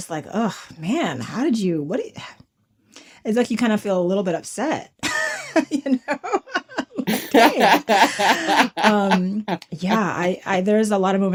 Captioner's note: laughter